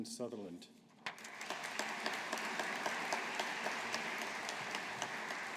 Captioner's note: audience applauding